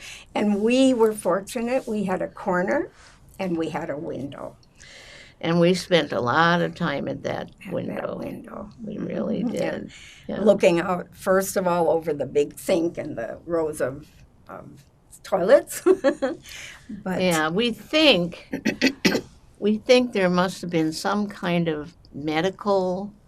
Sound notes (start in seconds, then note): 15.8 laughing; 18.6 clears throat